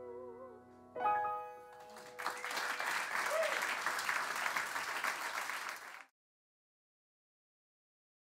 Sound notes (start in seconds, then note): 1.7 applause